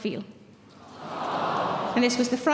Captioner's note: audience sympathising